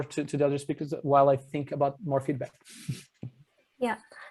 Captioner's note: chuckles